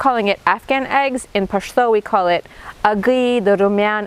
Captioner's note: speaking in foreign language